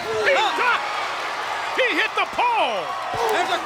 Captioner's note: audience cheers